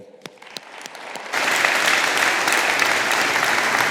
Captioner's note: all applauding